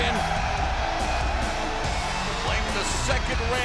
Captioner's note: fans cheering